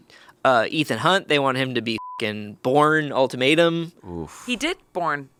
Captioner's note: beep